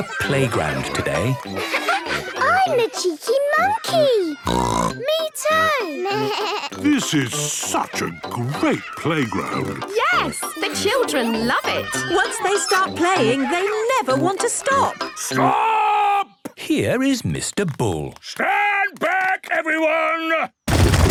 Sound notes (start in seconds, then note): 4.4 bleating; 4.4 snorts